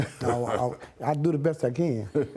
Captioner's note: laughing